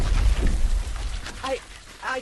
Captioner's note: loud explosion; explosion